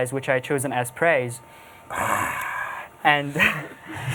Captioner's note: laughs